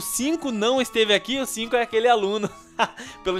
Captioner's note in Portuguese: risos